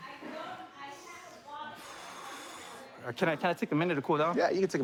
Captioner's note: exhales